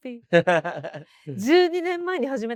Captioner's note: laughs